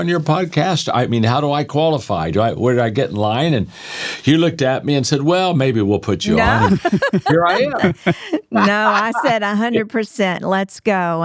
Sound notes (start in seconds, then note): 6.2 laughing